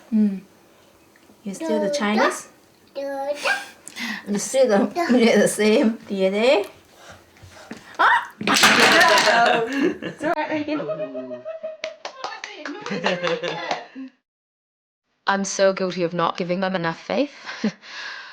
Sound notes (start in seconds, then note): 3.7 laughs; 8.4 blocks tumble to the floor; 11.6 group laughter and clapping